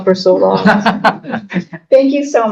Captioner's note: laughing